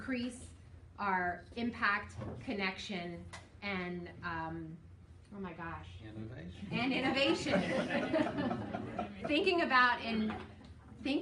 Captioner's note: laughing